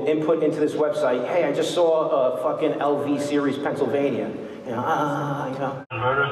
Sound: moans

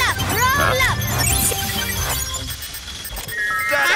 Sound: beeping

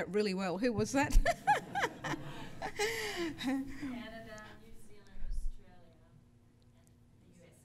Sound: laughs

